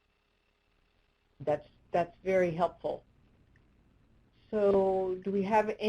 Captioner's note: voiceover